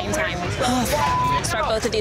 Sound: beeping

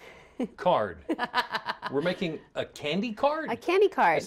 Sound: laughter

